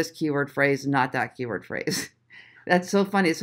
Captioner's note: chuckles